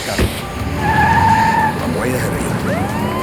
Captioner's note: tires squealing